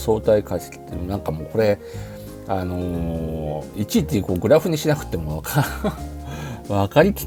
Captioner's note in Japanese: 笑い